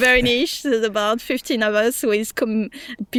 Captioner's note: laughs